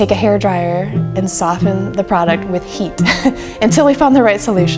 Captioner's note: laughs